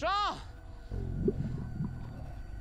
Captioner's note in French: gargouillis